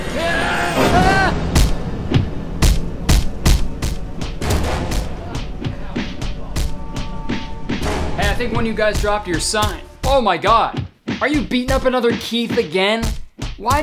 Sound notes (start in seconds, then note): 0.0 screams; 1.4 punch sound